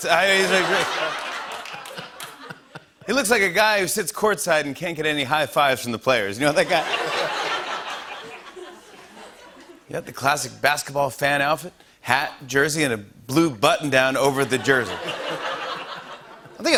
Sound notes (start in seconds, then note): 0.0 laughter and applause; 6.6 laughter